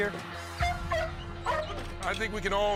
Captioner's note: barking